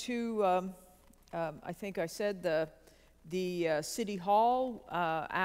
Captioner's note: none